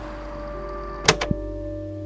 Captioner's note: click